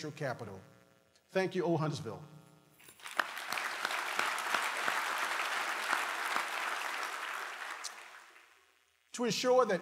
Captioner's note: applause